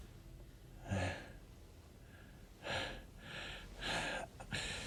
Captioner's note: heavy breathing continues